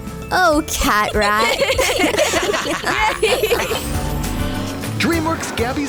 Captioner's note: laughter